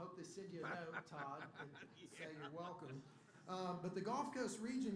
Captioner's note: laughter